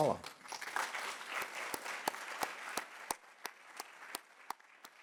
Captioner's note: audience clapping